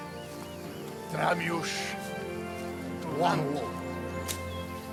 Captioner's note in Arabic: الصوت المنطوق باللغة الأجنبية